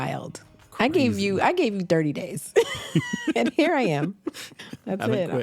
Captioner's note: both laugh